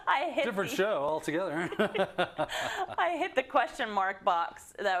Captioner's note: laugh